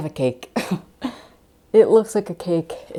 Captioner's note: laughter